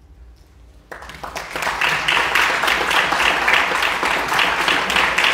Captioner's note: audience clapping